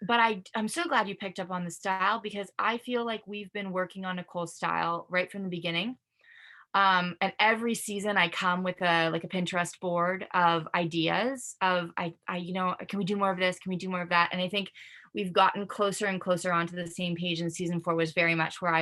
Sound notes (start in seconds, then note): none